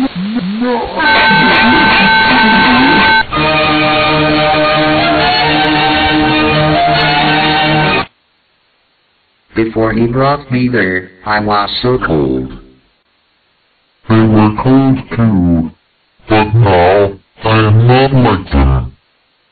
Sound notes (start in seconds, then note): 1.0 spooky arrangement of loud alarm and laughing noises